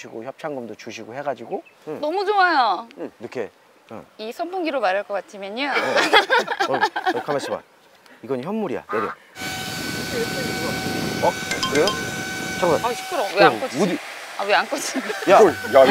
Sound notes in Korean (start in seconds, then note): 5.8 폭소